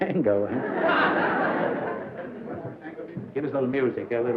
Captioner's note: laughter